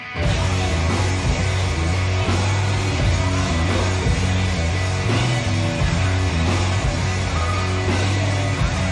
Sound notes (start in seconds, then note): 0.0 heavy metal music; 4.9 crowd chatters